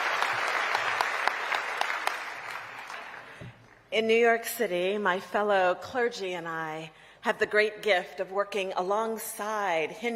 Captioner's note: applause